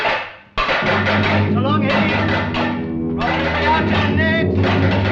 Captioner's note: German spoken audio